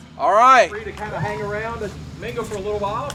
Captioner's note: audience applauds